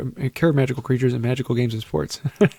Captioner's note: chuckle